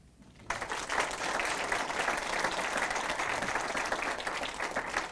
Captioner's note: audience applause